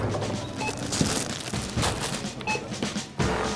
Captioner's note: non-stop beeping sound